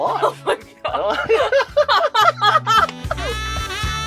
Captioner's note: both laughing; cheerful music